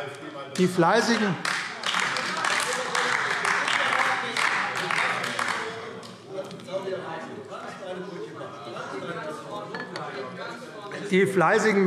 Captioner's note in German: Beifall AfD - Zurufe SPD und DIE LINKE